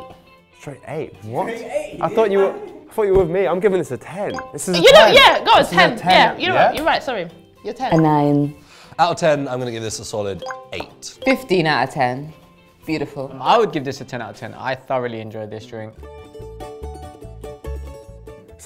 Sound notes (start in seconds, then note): 2.0 laughs; 16.1 lively music